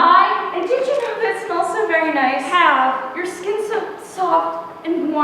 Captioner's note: none